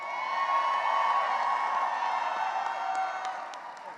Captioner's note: cheering and applause